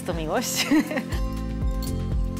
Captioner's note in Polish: śmiech